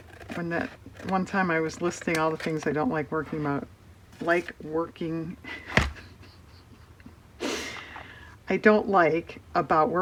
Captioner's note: laughs